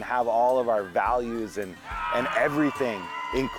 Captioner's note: people shouting